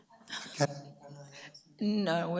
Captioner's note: speaks away from mic